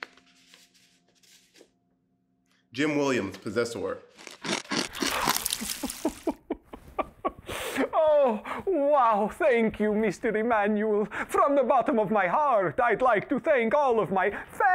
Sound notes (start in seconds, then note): 4.2 chomping sound; 5.8 crying